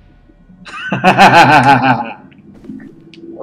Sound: laughs

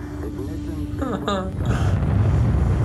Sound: laughs

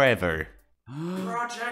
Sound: inhale

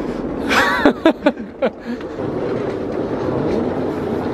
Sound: laughing

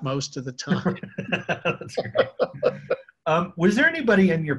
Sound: both laughing

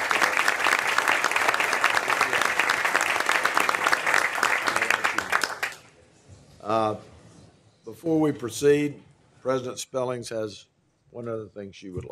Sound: applause

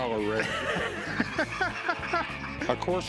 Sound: laughs

